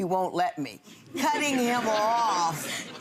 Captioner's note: laughing